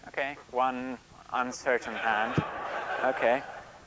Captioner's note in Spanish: Risas